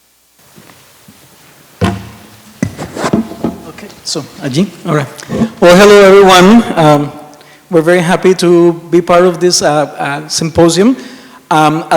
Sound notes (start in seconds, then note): 1.8 waterbottle thuds on the table; 4.0 mic shuffles